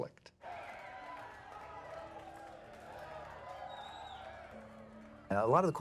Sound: crowd cheering

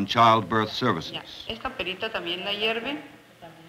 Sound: speaking Spanish

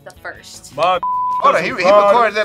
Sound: beep

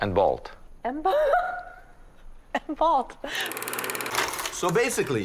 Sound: laughing

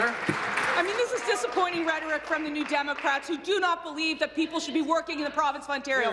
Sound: applause

